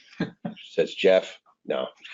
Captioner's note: laughs